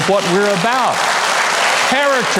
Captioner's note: audience applauding